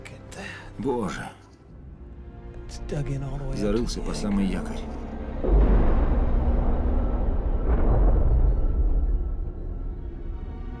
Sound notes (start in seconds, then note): 5.4 thud